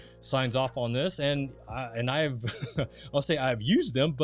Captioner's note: laughing